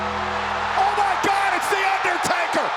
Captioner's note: ominous music continues; audience continues cheering